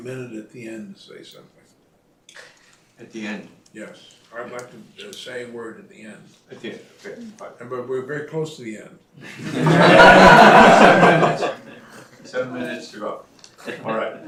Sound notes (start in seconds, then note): 9.2 laughter